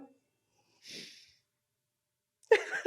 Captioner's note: laughter